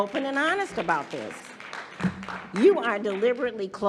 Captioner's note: audience applauding